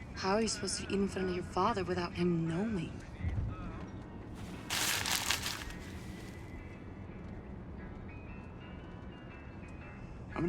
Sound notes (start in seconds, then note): 4.4 bag rustles; 6.7 soft slow bright music